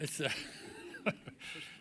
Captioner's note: laughter